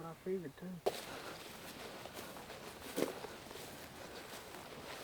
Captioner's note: footsteps